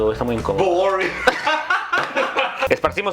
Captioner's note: laughs